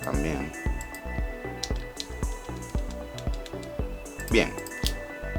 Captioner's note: typing